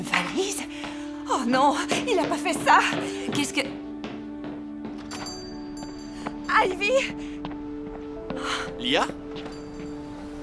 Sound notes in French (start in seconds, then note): 5.0 cloches qui sonnent